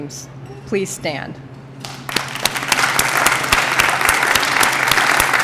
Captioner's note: applause